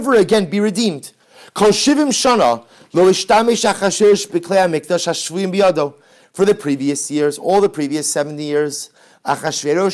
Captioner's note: Hebrew